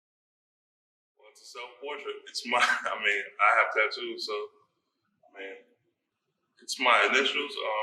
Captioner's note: laughs